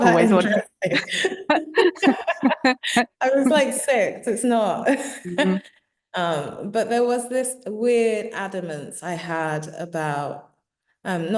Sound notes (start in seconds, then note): 0.0 laughing; 0.0 both laughing; 6.1 laughing